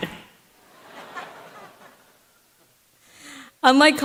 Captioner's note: laughter